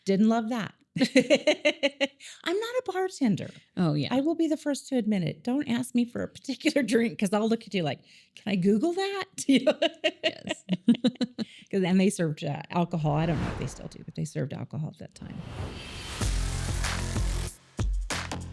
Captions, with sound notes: Didn't love that. (laughs) I'm not a bartender. I will be the first to admit it. Don't ask me for a particular drink because I'll look at you like, can I Google that? (laughs) Because then they served alcohol. I don't know what they still do, but they served alcohol at that time. (upbeat music)